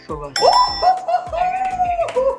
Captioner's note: cheers; claps